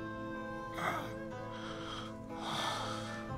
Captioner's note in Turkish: İnliyor